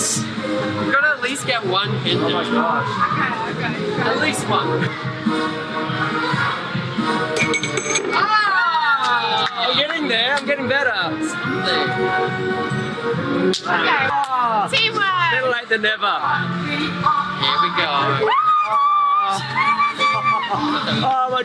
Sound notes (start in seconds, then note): 7.4 bell ringing; 7.6 all shouting; 18.2 screaming